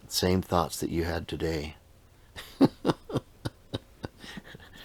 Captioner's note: laughing